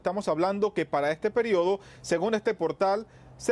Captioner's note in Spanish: HABLANDO EN INGLéS